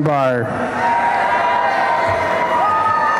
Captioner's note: applause and cheering